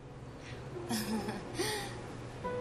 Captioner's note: laughs